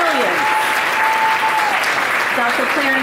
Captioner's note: audience applauding